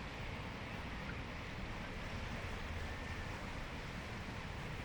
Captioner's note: water flowing